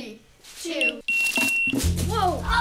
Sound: beep

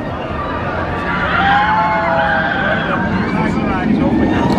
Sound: riders screaming

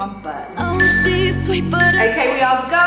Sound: alarm beeping

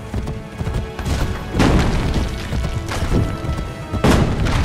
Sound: horse sounds; cannonbals hitting the ground

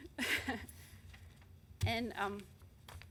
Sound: chuckles

